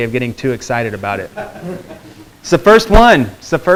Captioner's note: students laughing